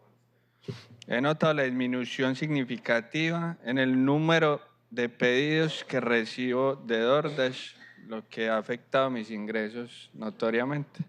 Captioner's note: speaking spanish